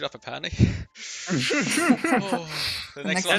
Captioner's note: haha